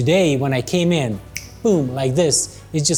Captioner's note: snap